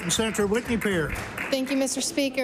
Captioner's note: applause